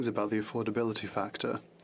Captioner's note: speaking French